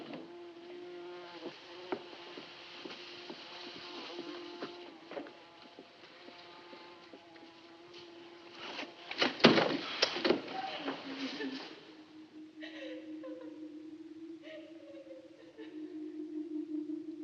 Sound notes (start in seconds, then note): 10.5 woman sobbing